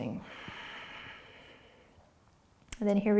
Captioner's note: breathing